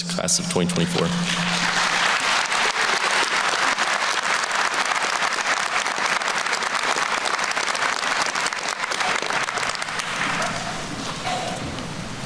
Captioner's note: applause